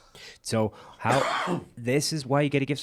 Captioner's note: coughs